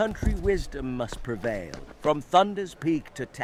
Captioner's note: gun bangs